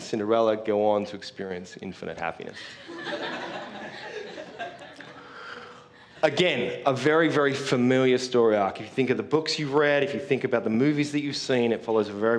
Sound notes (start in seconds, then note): 2.6 laugh